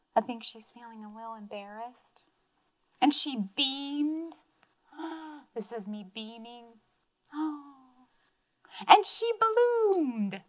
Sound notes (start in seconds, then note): 4.9 gasps